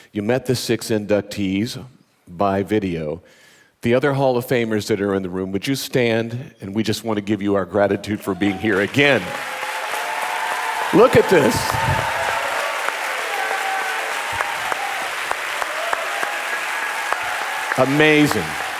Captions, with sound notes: You met the six inductees by video, the other hall of Famers that are in the room, would you stand? And we just want to give you our gratitude for being here again. (audience cheering) (audience applauding) Look at this. Amazing.